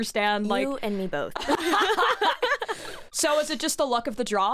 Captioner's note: both laugh